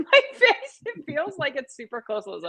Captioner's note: laughter